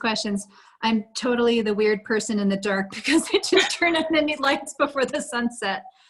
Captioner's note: laughter